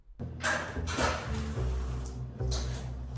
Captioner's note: door latch clicking